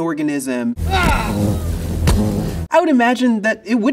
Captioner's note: mosquito buzzing